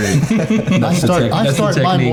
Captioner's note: all laughing